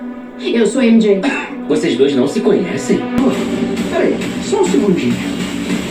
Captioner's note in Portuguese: limpando a garganta